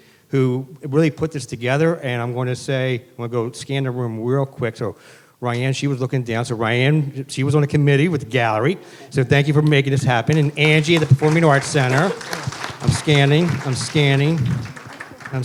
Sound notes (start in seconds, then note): 10.2 applause